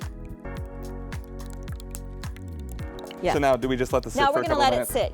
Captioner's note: liquid pouring